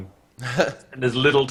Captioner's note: laughs